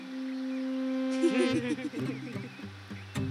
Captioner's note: Both laughing